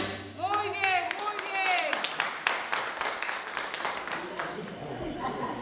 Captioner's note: speaking foreign language